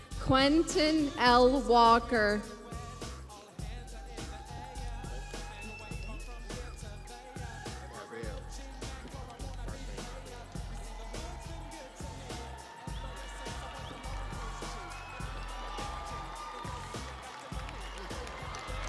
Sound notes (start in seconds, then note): 7.4 crowd cheering